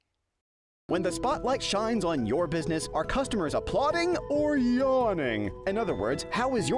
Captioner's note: voiceover